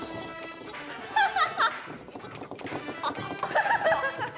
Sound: burst out in laughter; laughing

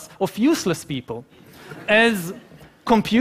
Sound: laughing

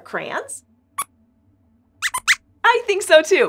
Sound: squeaks squeaks

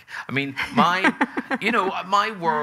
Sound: laughing

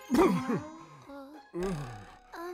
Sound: spits

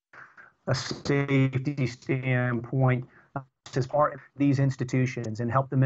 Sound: audio corruption

